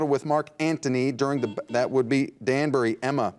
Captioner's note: buzzer dings